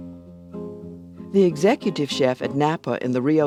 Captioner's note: voiceover